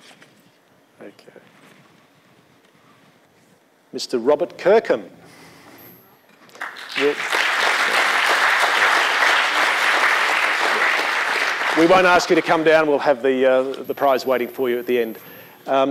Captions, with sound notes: OK. Mr Robert Kirkham. (APPLAUSE) We won't ask you to come down. We'll have the prize waiting for you at the end.